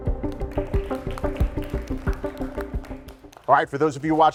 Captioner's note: judges applauding